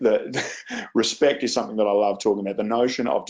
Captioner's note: laughs